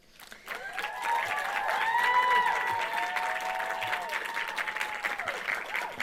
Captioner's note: audience cheering and applauding